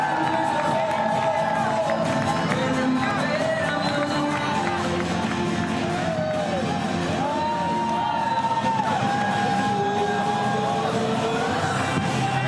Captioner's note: applause and cheering